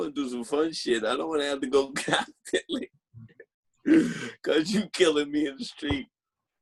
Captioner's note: laughing